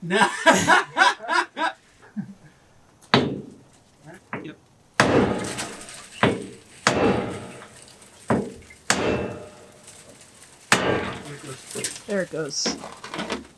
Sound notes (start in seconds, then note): 0.0 more laughter; 2.9 hammering